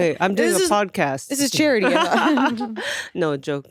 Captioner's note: laughs